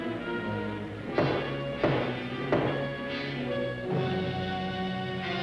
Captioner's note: heavy knocking on door; dramatic ominous music